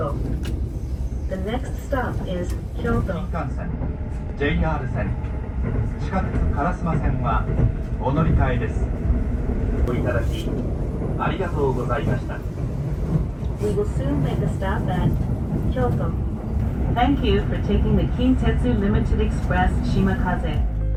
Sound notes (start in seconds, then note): 3.3 announcement in Japanese